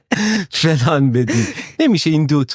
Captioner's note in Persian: خنده